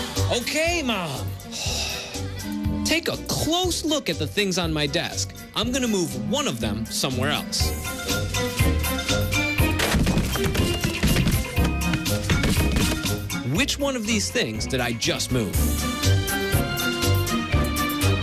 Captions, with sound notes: - OKAY, MOM. TAKE A CLOSE LOOK AT THE THINGS ON MY DESK. I'M GOING TO MOVE ONE OF THEM SOMEWHERE ELSE. [objects jumble] WHICH ONE OF THESE THINGS DID I JUST MOVE?